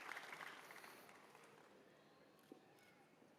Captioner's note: cheers and applause